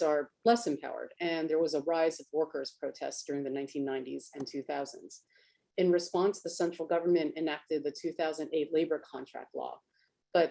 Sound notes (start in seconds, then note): none